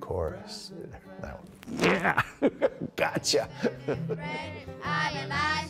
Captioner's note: laughs